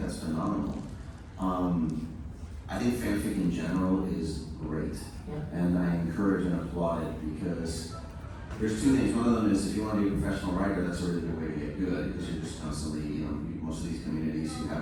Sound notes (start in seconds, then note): none